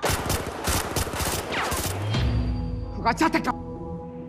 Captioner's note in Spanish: Disparos